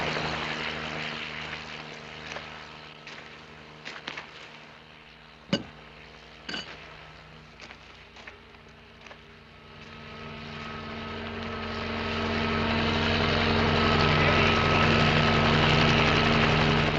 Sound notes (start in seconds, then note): 11.2 helicopter